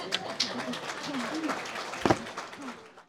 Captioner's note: audience Applauding